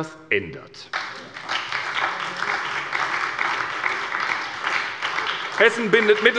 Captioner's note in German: Beifall bei der SPD